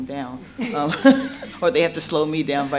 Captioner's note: laughter